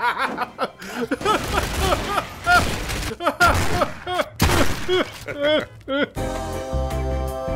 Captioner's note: maniacal laugh; desperate crying